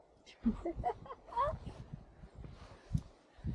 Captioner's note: giggles